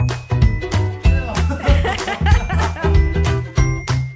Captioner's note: laughing